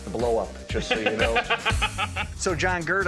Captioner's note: laughing